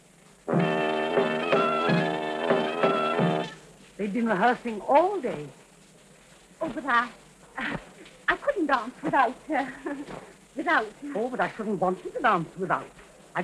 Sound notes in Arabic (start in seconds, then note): 0.5 موسيقى الرقص المنهجية; 9.7 يضحك بعصبية